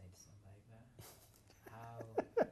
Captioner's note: laughs